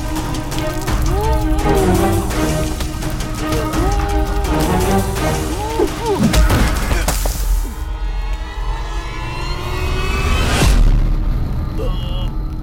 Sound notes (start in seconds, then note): 0.9 groaning; 5.5 stone sound; 8.0 groaning